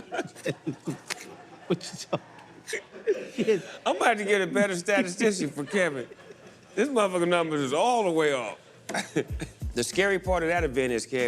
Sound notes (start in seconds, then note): 0.0 laughing; 0.0 laughter